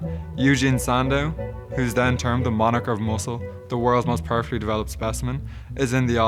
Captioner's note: none